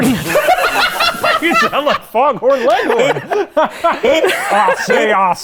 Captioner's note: laughing; laughs